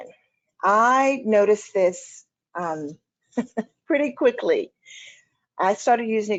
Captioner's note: chuckling